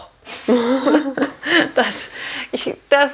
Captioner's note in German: Lachen